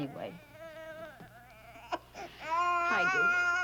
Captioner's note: cries